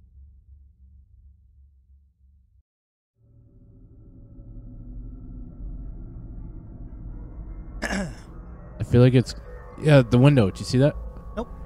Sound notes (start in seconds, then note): 7.8 clears His Throat